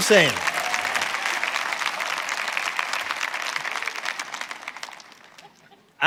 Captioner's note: congregation clapping and cheering